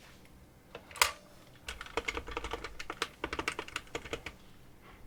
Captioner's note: phone dialing